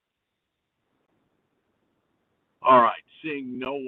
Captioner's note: A pause; A pause